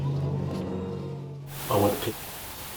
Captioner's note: audience groaning